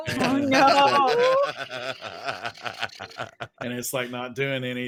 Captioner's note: laughing